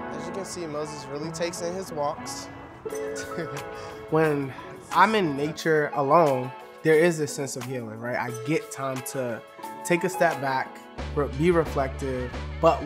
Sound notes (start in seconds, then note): 3.7 laughs